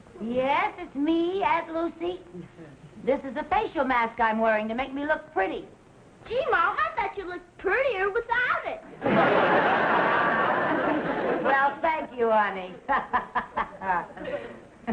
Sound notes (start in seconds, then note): 9.0 audience laughing; 12.9 laughing